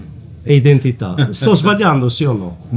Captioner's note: Albert laughs